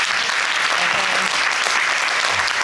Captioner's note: applause